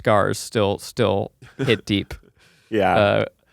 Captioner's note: chuckling